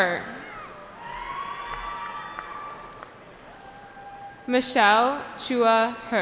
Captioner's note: cheering